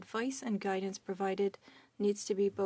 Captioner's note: speaking French